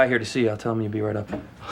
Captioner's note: breathes